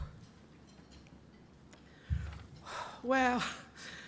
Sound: sighing

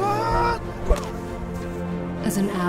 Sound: arrow strikes

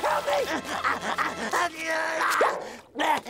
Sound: grunting

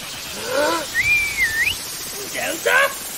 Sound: whistles

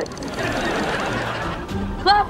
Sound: laughing

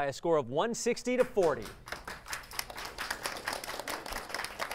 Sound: applause

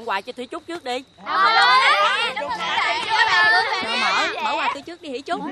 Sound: kids chattering

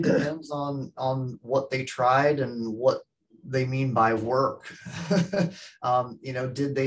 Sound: chuckles

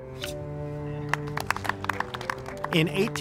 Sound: crowd clapping

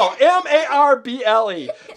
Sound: child giggles

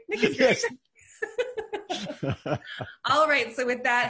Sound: laughing

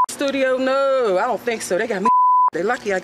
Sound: beep; beep

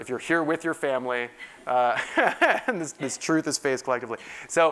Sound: laugh

